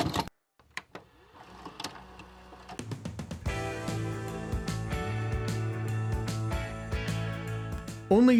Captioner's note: VHS sound effects; rock music plays